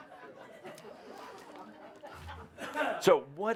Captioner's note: some laughter